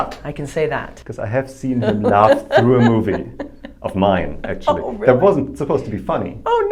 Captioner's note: laughing